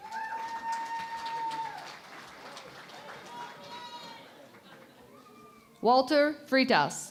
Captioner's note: cheering and Applause